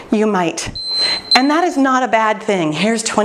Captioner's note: timer beeping